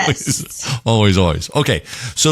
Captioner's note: laugh